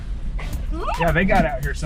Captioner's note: screams